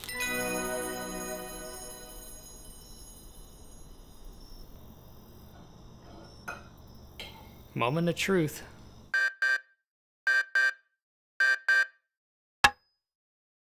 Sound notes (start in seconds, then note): 9.1 alarm sound; 12.6 hammer on nail